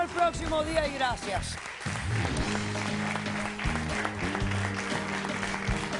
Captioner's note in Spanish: Aplausos